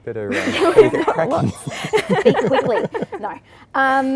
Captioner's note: laugh